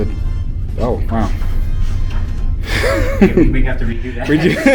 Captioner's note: laughing